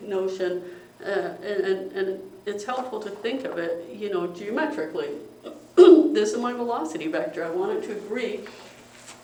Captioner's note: cough